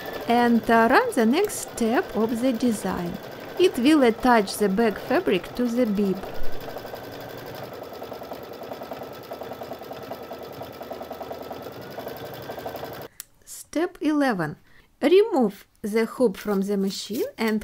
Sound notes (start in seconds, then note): 6.8 sewing machine running